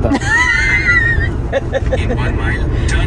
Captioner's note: laugh